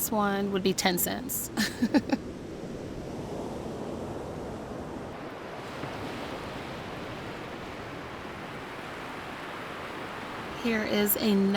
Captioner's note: haha